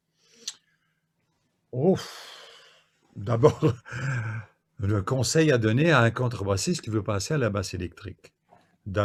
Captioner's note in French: soupir